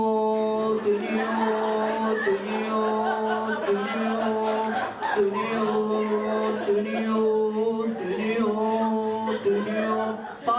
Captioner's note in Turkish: Gülüşmeler